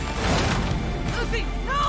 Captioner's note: tense rhythmic music; device thudding